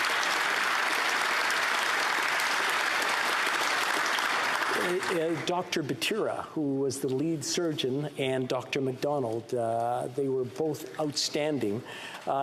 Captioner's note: applause